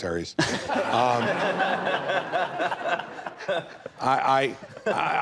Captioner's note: audience laughing